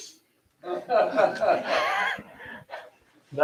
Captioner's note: laughter